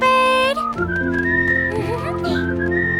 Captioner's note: melodic chirping; chuckles; Rachel giggles